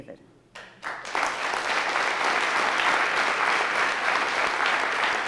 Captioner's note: audience applauding